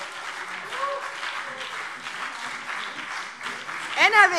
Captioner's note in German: Beifall BÜNDNIS 90/DIE GRÜNEN und CDU - Fortgesetzte Zwischenrufe